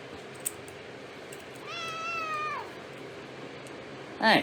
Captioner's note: Caprice meows